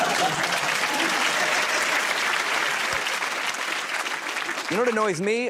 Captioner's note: applause